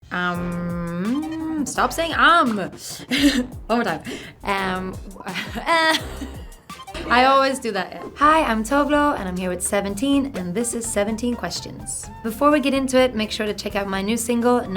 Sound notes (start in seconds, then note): 0.0 upbeat music begins; 2.8 laughing